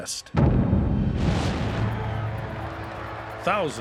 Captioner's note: crowd shouting